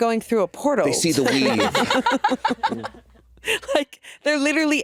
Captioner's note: all laughing